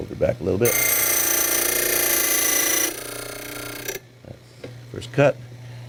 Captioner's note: drilling sound